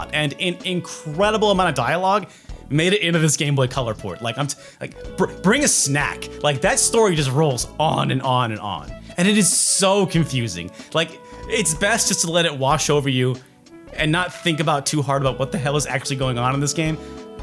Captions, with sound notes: and an incredible amount of dialogue made it into this Game Boy Color port, like I'm t- [stammering] bring a snack! Like, that story just rolls on and on and on! And it is so confusing! Like, it's best just to let it wash over you, and not think about too hard about what the hell is actually going on in this game.